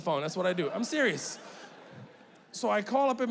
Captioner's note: audience laughing